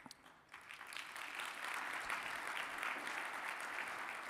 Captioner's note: audience applauding